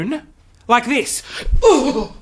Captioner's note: groans